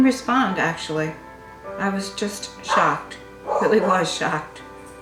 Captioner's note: dog barks